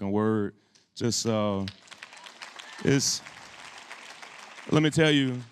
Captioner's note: applause